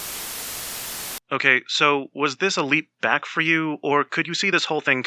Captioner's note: static